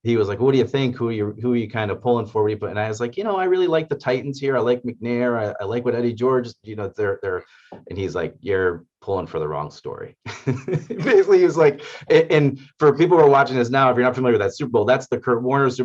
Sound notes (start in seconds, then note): 10.2 laugh